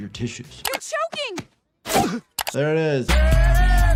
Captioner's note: Stewey coughs